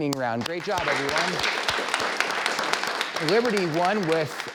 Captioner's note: clapping